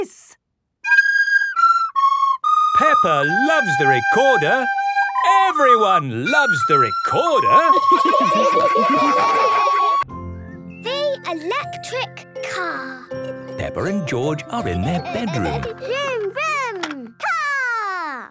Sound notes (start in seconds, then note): 0.2 playing theme song; 7.7 laughter